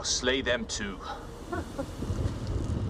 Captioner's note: chuckles